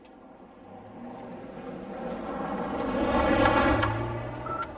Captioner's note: engine rumbles